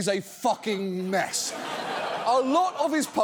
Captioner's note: audience laughs